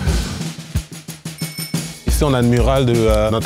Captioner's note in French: ̇sonnette